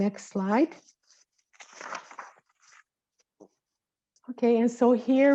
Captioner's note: papers rustling